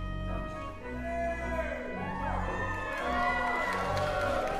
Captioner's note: cheering; applause